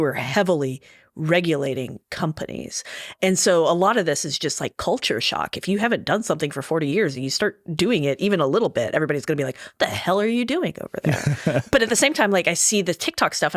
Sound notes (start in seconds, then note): 11.0 laughing